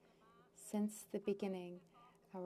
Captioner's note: speaking French